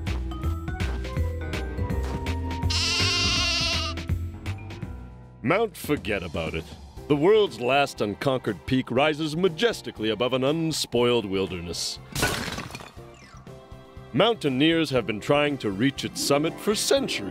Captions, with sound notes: (bleats) MOUNT FORGET ABOUT IT. THE WORLD'S LAST UNCONQUERED PEAK RISES MAJESTICALLY ABOVE AN UNSPOILED WILDERNESS. MOUNTAINEERS HAVE BEEN TRYING TO REACH ITS SUMMIT FOR CENTURIES,